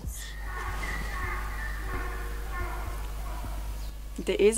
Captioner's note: donkey screams